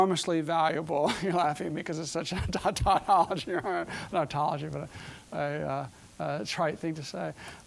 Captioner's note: chuckling